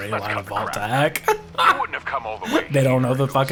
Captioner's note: laughs